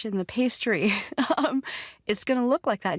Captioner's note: chuckles